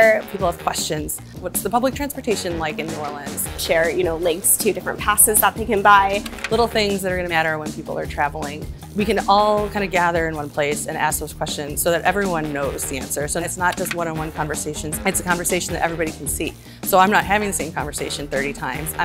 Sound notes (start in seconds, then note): 6.2 screen scrolling; 13.7 screen scrolling